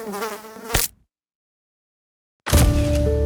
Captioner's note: fly buzzing; fly splatting; eerie music